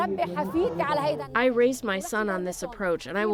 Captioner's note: through translator